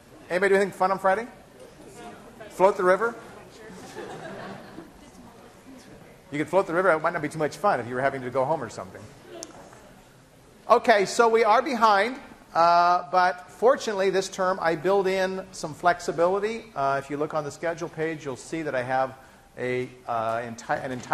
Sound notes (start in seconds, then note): 3.6 class laughing